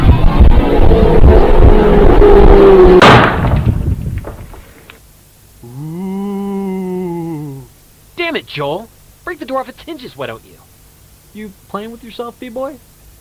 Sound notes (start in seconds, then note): 3.0 bathroom door bursts open; 5.6 fake ghost noises